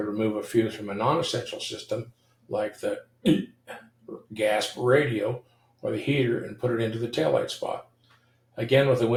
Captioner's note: gasp